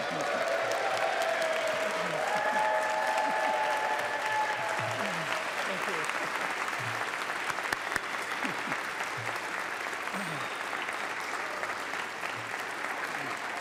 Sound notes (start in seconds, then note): 10.6 applause